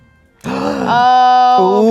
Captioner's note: gasps